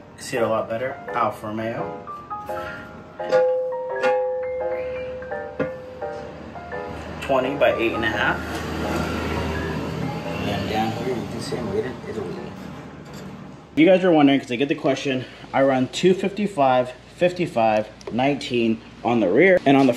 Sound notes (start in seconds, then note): 3.3 metal clanging